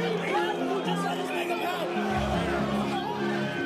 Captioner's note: crowd yelling